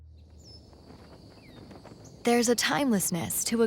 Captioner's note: birds chirping